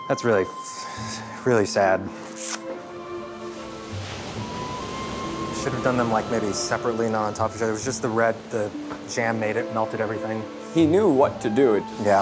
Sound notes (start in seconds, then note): 2.5 flute music; 2.5 waves crashing